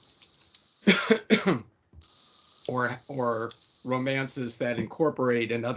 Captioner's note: coughing